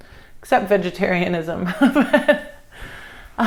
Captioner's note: laughs